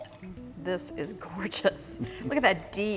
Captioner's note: wine sloshing; both chuckle